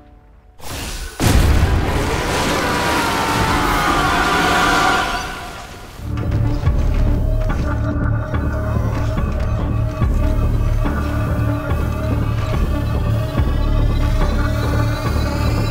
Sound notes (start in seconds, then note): 1.1 lava gushes; 1.9 villain screams